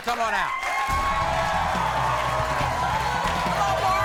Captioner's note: crowd cheering